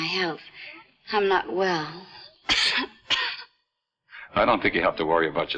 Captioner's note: coughs